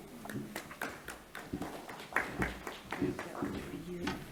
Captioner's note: audience clapping